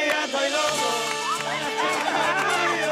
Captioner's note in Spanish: Risas